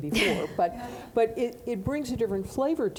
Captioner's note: laughing